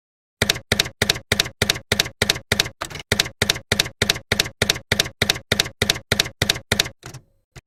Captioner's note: typewriter keys clacking